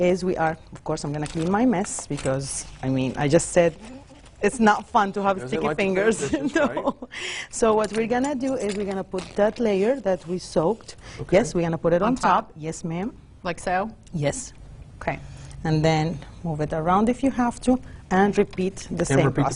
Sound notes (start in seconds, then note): 6.1 laughs